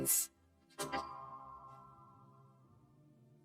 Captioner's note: doorbell rings